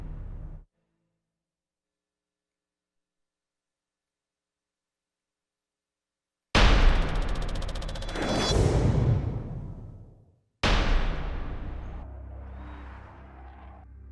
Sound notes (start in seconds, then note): 6.9 rapid clacking; 10.6 dramatic percussion